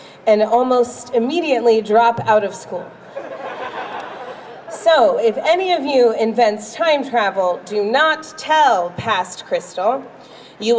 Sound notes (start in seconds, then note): 3.0 crowd laughs